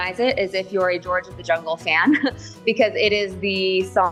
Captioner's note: chuckles